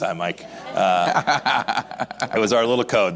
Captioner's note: laughs